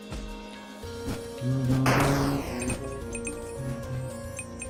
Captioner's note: humming along